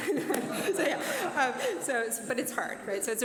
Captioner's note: laughter